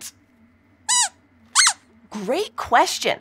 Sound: squeaks squeaking

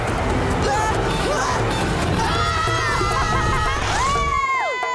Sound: grunting; screaming

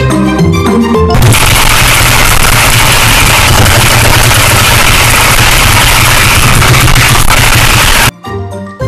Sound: intense typing

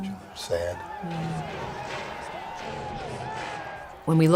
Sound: cheering

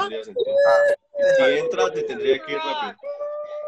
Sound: man speaks foreign language

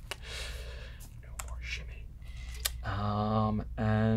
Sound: whispering

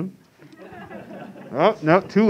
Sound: class laughs

